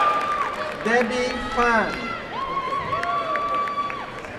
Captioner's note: cheering